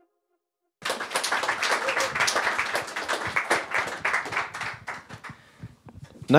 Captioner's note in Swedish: Applåder